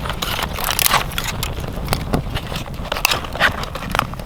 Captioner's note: wood rattling